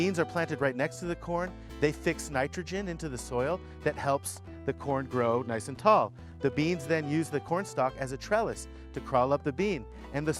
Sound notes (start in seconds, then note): none